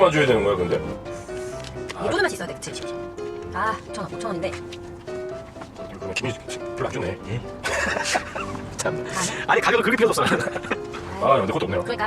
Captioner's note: busy scratching